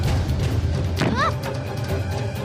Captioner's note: stomps